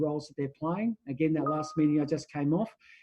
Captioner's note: computer notification rings